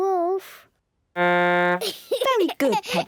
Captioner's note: blows horn, giggles